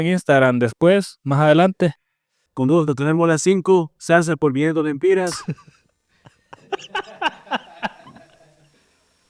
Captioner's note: laughs